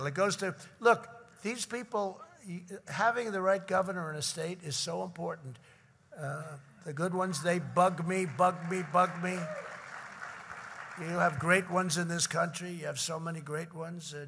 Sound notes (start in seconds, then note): 7.8 applause